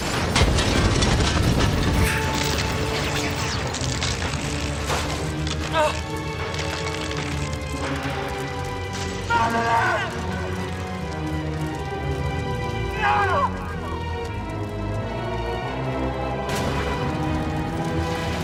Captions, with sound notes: [debris falling] Ah... [fire blazing] Madeleine! No! [sirens]